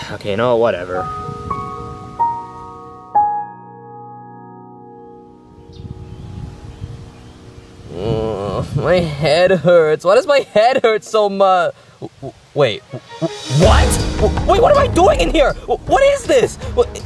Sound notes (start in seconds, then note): 0.4 gentle piano music; 7.9 groaning